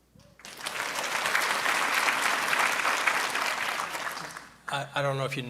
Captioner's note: audience clapping